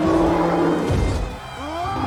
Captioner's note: growl